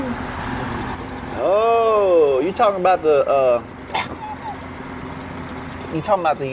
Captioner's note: gags